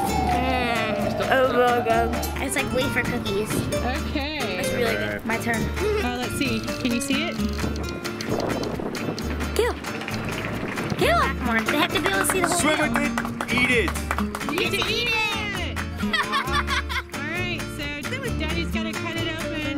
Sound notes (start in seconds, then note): 15.9 laughs